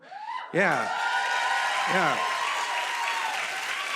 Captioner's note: cheers and applause